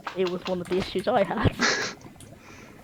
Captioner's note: laughing